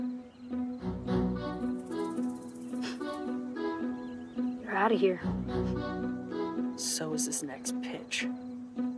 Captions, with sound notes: [ Scoffs ] You're out of here. So is this next pitch.